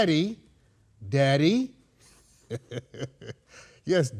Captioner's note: laughs